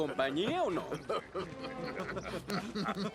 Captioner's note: men laugh